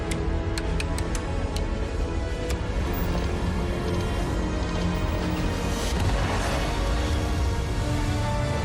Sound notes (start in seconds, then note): 2.1 switches clicking